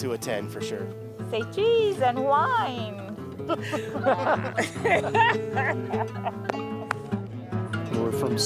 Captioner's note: laughing